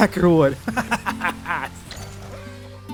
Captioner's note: laughs